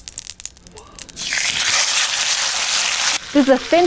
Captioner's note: meat sizzling